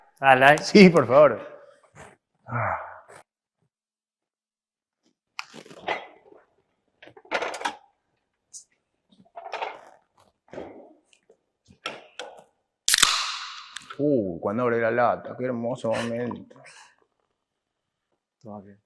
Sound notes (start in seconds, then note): 3.8 noises of glasses and bottles; 12.9 noise of uncovering the soda container